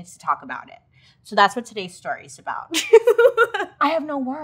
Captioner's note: laughing